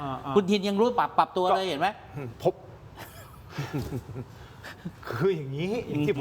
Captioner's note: laughs